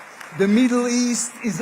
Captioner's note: applause